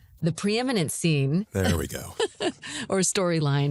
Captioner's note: laughs